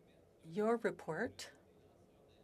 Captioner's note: speaking French